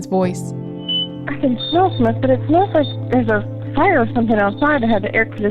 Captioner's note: on the Phone